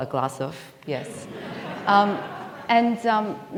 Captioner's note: audience laughing